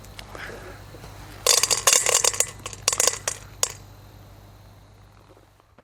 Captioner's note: corn kernels crushing into metal bowl